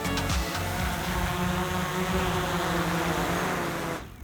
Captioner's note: rotors buzzing